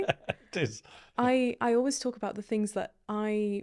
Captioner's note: laughing